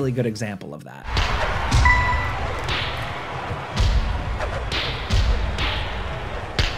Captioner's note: in-game crowd cheering